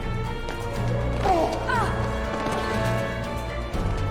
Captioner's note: woman grunts; man grunts